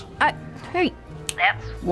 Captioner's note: snaps fingers